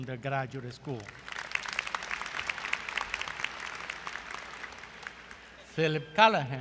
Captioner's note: applause